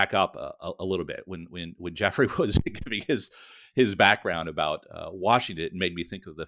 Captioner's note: laughing